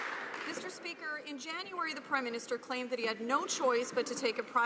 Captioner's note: some Applause